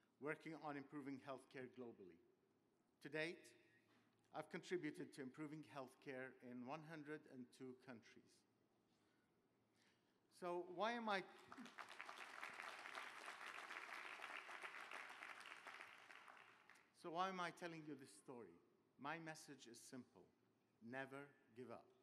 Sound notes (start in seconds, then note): 11.2 applause